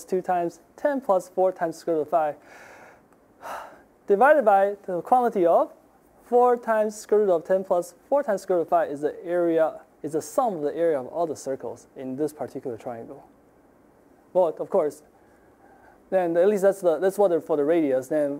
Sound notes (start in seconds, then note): 3.4 sighing